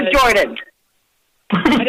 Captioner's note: laughter